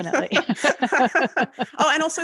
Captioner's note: laughing